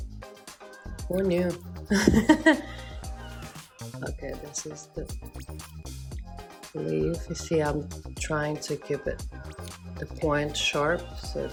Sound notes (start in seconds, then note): 1.9 laughs